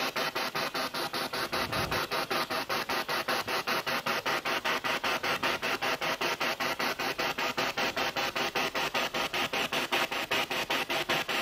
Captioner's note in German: Noise of the spiritbox in the background